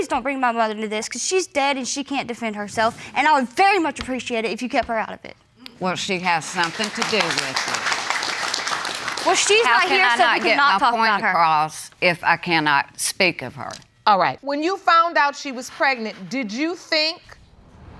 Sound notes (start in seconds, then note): 6.4 audience applauding